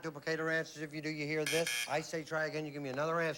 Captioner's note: buzz buzz